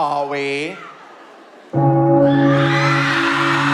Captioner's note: church bell